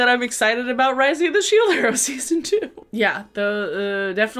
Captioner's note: laughs